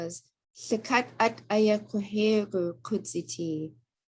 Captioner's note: speaking Tlingit